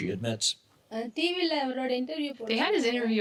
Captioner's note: speaking foreign language